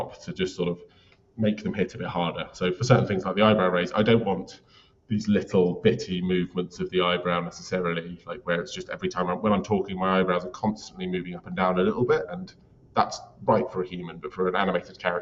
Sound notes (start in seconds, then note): none